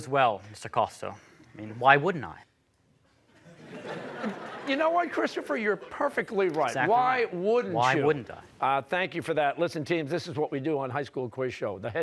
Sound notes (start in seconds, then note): 3.3 laughter